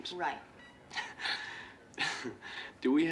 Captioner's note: laughing